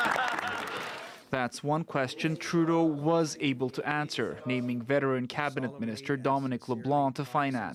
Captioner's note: laughter